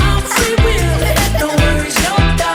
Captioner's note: kids laughter